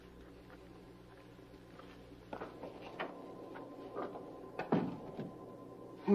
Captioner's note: footsteps receding; door closing